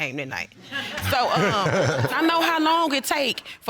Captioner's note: all laughing